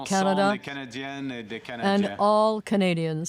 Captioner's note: speaking French